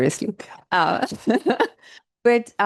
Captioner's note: laughing